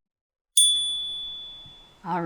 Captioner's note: chime